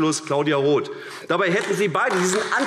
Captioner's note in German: Beifall AfD